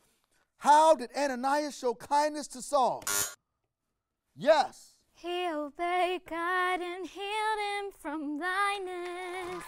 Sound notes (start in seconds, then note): 3.0 buzzer rings; 9.3 audience applauds